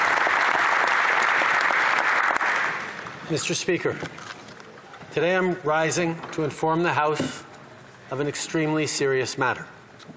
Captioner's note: some Applause